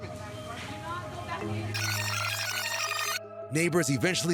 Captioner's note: tape rewinding